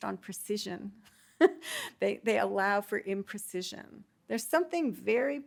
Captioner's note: chuckles